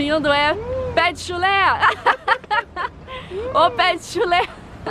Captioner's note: laughter